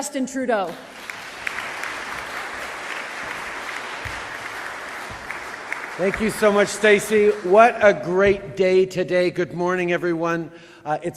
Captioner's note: applause